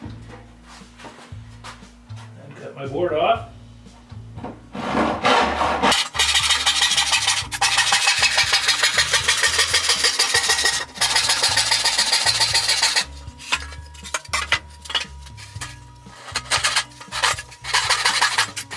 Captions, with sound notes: Cut my board off. (Sawing )